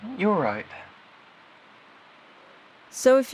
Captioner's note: SFX: Outside ambient noise fills the silence